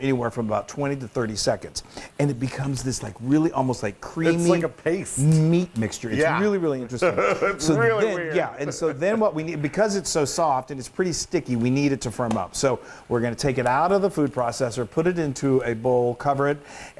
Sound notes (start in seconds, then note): 7.0 laugh